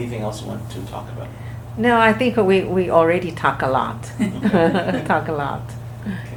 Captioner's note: everyone laughs